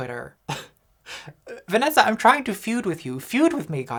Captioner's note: laughs